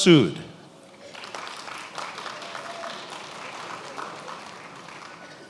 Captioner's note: attendees applauding